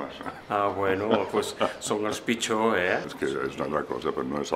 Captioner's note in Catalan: Risas